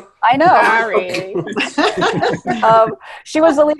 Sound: cast laughing

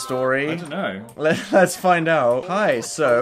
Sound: laughing

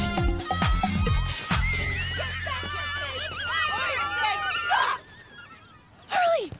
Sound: kids screaming

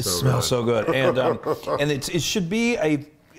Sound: laugh

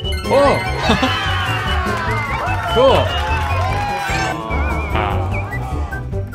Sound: crowd cheering

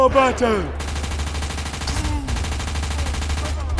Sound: machine gun fire

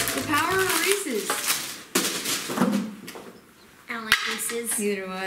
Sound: banging

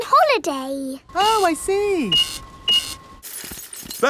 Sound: cash register beeping

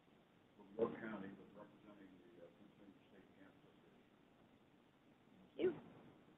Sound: voice fades

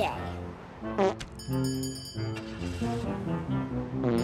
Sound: farting noise

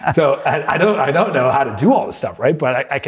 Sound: laughter

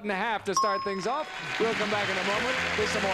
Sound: ding

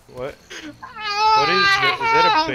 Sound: heroic noises

